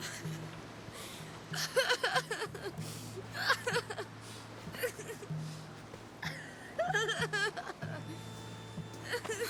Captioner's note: sobbing